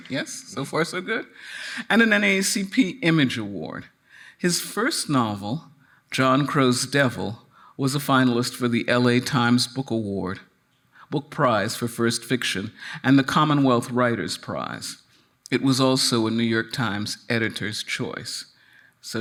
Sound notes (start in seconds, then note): none